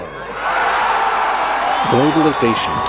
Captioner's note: audience screaming and applauding